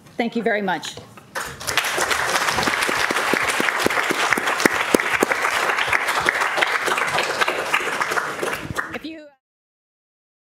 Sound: applause

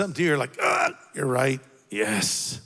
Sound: groans

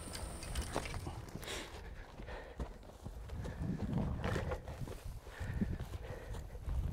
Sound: panting; grass crunching

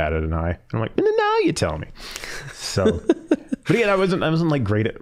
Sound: laughing

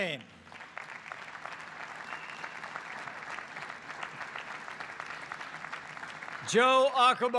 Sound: applause

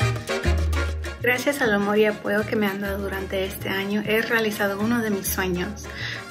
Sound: speaks in foreign language

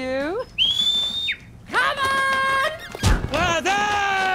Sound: whistles

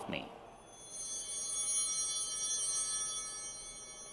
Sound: bell ringing

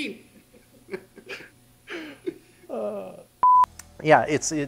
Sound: everybody laughs

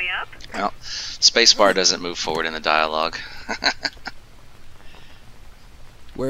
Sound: laughs

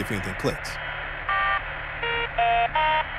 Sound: static

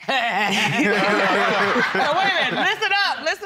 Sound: imitates chuckling; all laughing

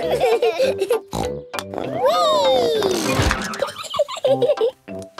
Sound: snort, laughing; snort

